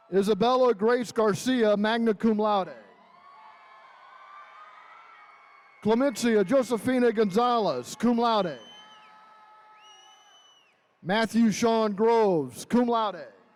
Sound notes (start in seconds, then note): 2.8 attendees cheering